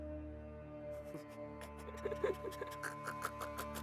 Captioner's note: laughs